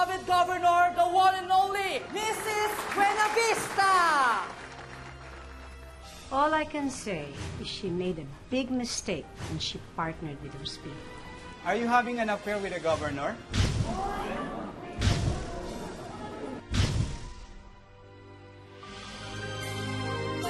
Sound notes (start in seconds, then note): 13.9 clamoring; 18.9 theme music playing